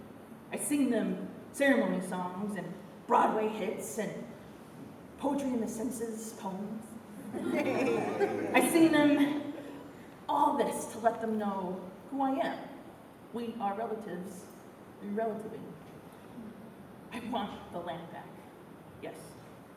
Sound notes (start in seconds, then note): 7.3 laughter